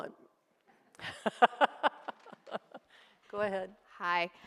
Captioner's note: laughs